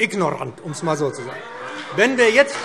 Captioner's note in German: Heiterkeit und Beifall BÜNDNIS 90/DIE GRÜNEN und CDU